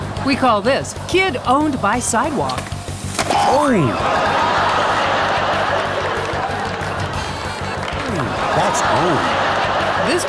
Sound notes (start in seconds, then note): 3.7 raucous laughter; 9.1 audience laughing